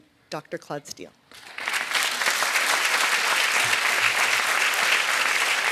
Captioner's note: audience clapping